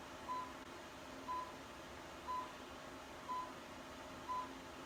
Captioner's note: machine beeps